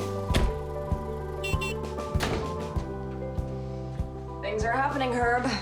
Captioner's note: car horn beeps